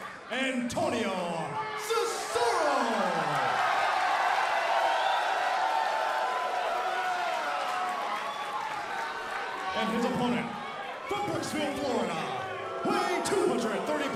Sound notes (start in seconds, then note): 5.5 crowd cheering